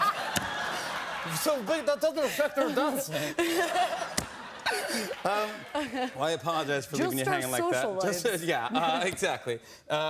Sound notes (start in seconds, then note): 0.0 laughter